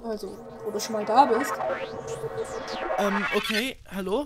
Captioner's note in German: Enderman Geburt Geräusche